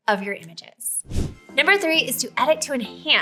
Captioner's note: swoosh